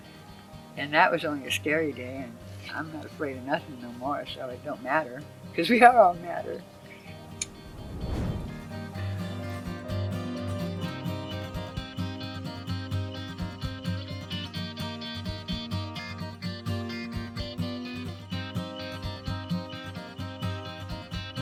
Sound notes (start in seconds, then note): 7.0 laughing; 9.1 upbeat guitar music